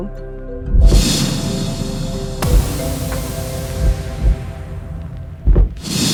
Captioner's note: upbeat music; logo whooshing